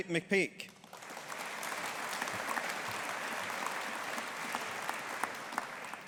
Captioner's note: audience applauding